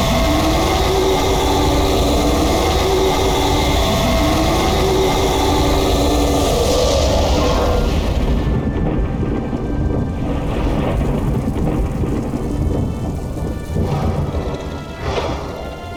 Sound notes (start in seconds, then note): 0.1 rrrrruuuuuuuuhhhhhrrr!!!!; 3.4 fffwwwwwaaaaaaaaaaaaaaaaaaaaaaaaaaaarrr!!!!